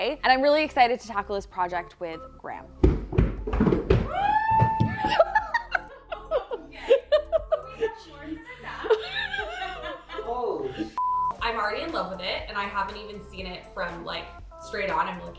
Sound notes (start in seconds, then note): 2.8 runner thuds; 4.0 group cheers; 4.8 laughs; 10.9 beep